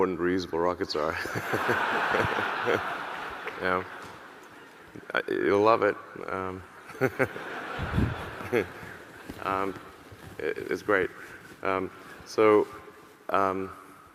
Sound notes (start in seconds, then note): 1.2 audience laughing; 1.2 laughs; 6.8 audience laughing